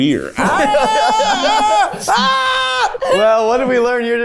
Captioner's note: screams; laughs